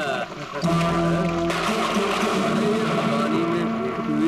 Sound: thunder crashing

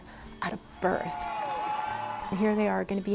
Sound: applause

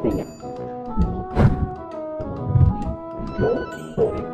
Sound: sound distorting

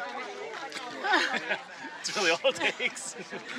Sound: laughter

